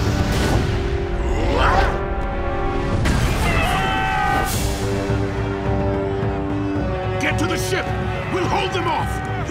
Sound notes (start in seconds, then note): 1.2 grunting; 3.3 screaming